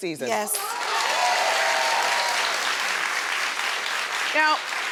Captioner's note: audience cheering